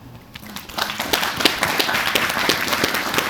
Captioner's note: audience Applauding